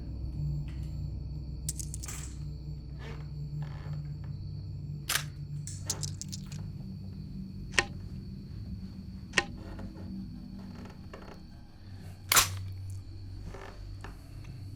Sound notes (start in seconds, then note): 1.7 bullets clinking; 5.1 gun snaps; 7.7 bullets thud; 12.3 gun snaps